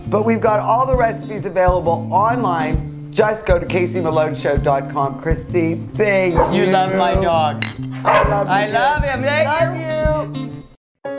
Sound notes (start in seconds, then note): 7.4 bottles clink; 7.8 dogs barking